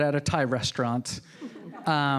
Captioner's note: audience laughing